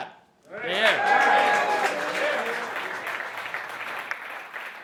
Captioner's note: cheering and applauding